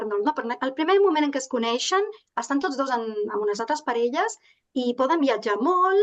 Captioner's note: continues speaking in Catalan